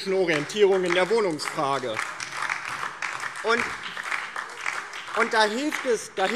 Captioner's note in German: Beifall DIE LINKE und SPD